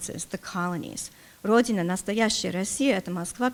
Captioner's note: speaking russian